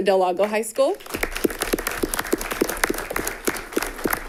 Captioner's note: all clapping